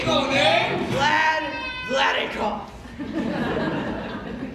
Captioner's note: audience laughter